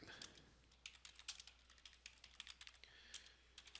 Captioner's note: sound of typing